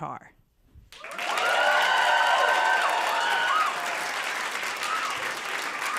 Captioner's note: applause